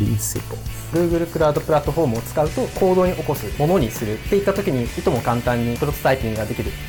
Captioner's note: non-english speech